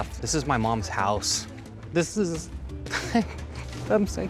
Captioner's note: sobbing